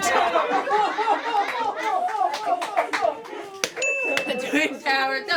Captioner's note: offscreen laughter